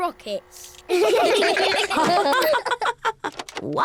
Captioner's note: all laugh